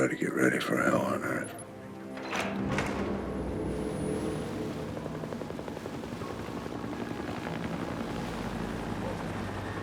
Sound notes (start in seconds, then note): 4.6 aircraft noise